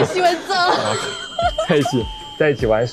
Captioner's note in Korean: 웃음